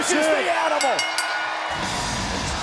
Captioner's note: bell rings; energetic rock music